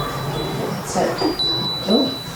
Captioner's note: knock sound